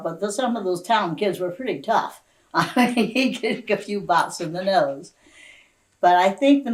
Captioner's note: laughs